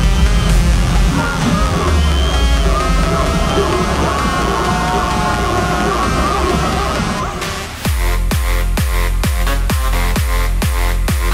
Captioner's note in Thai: ปรบมือ